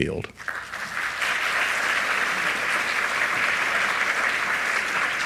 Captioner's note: audience applauds